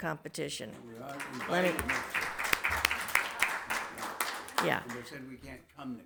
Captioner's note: everybody applauds